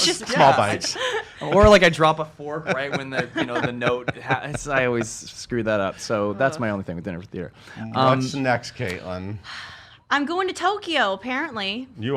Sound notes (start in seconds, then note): 0.0 laughs; 2.6 laughs